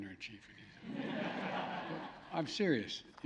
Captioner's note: laughter